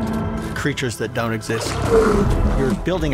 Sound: creature moaning

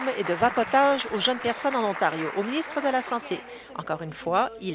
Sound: applause

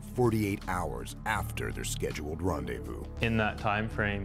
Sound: voiceover

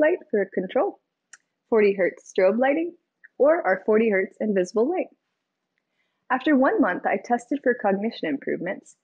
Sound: none

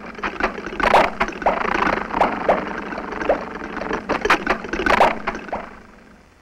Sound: car's engine begins sputtering

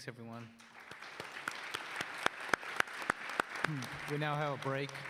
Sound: audience applauds

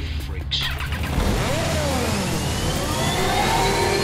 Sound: skimmer engines start

